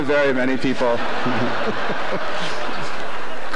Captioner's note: audience laughter